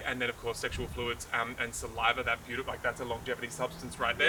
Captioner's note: none